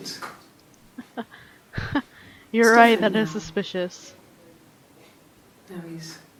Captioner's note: laughs